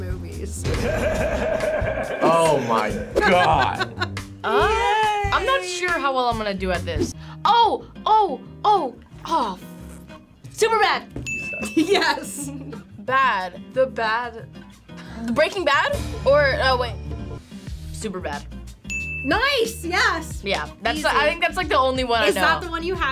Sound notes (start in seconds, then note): 0.7 Seth Rogen laughs; 3.0 laughs; 11.2 bell dings; 14.4 laughs; 18.9 bell dings